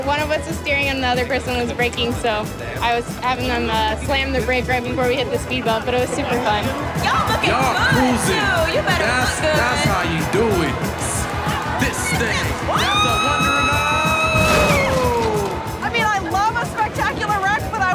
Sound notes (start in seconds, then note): 15.0 yells